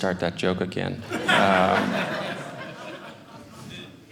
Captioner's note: audience laughing